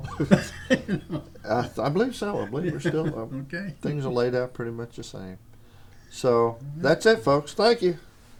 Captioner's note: laughter